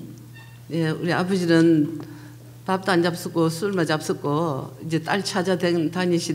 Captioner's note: speaking foreign language